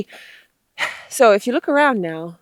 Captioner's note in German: seufzt